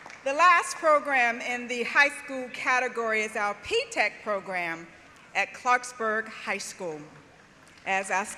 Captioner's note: applause